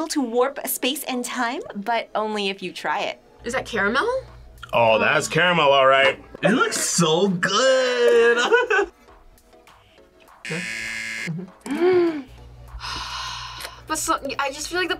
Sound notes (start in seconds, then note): 7.8 laughs; 10.4 buzzer; 11.3 sighs; 11.4 gasps